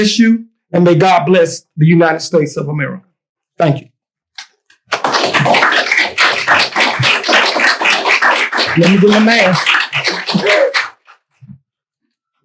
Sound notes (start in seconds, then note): 10.0 chuckles